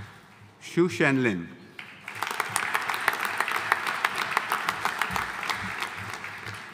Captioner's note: audience applauding